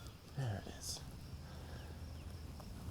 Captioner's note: none